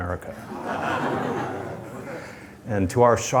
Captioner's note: laughter